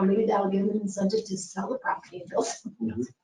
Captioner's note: speaking faintly